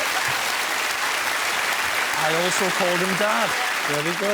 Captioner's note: applause